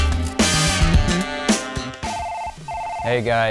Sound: phone ringing

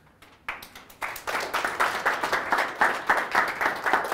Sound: audience applauds

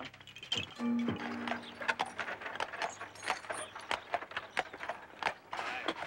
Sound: horse hooves clopping

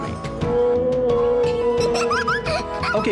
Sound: whale sound; child giggles

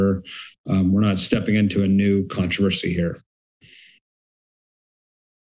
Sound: sniff

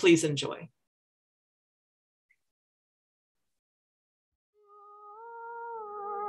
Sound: audio silence

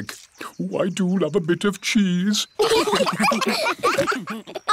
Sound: laughter

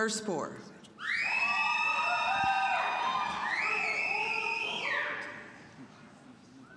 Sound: audience cheering

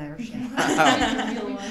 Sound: guests laugh; laughs

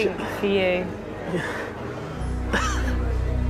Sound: laughs

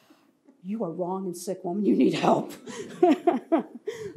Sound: laughs

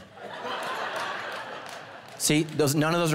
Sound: congregation laughing

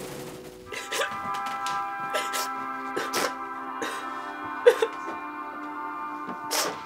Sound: bright music; girl sobs

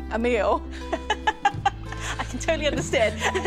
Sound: laughs

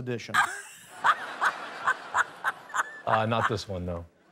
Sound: laughter

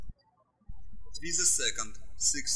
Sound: birds chirping

